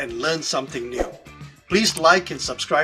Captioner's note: graphic swooshing